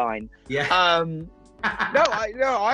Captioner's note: laughing